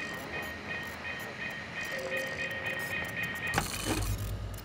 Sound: beeping

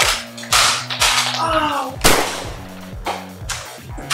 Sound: bang!

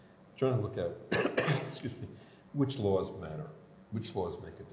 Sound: coughs

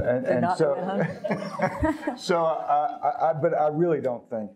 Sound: both laughing

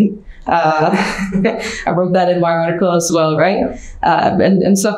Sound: chuckles

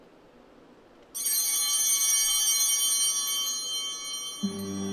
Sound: altar bell ringing

